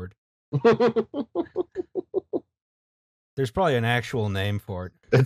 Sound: laughter

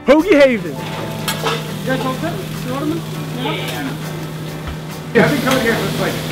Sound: kitchen noises

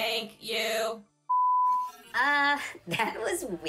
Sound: lost signal beeping

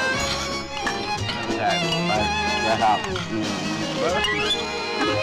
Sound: guests murmur

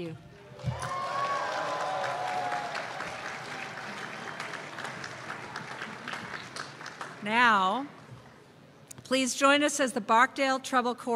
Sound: cheers and applause

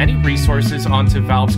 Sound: whispers

